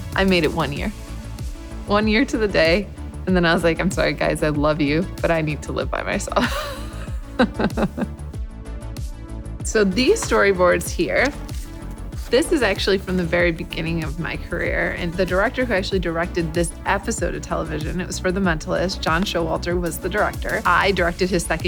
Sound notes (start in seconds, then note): 7.3 laughing